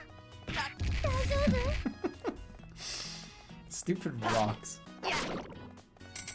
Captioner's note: giggling